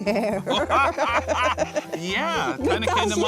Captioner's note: laughing